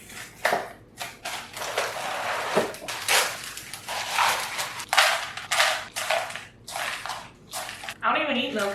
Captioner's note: cereal noises